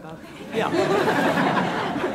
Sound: laughter

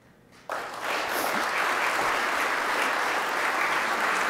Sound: audience applauding

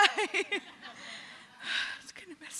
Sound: laughter

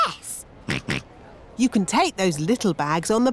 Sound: snorts

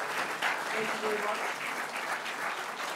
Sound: audience applauding; speaking over applause

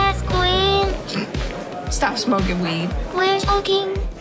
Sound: snorts

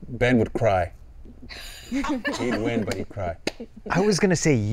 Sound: all laughing

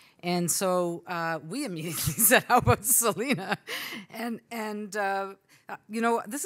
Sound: laughs

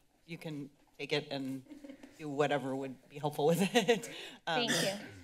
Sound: laughs

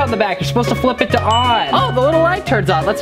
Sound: tinny dinging

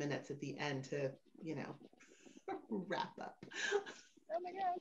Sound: laughs

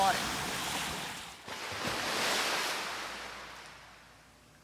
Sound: waves Crashing

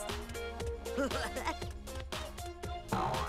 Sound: chuckling

